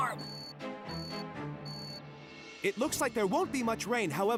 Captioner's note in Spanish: pitido